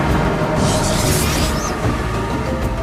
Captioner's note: portal noise fades; portal closes